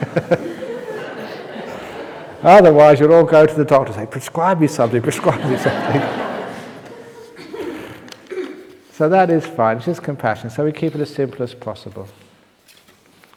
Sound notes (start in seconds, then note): 0.0 laughs; 8.2 laughter